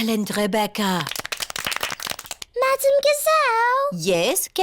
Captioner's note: all clap